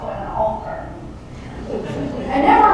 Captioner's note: laughter